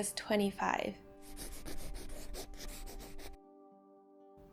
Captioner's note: pencil writing noise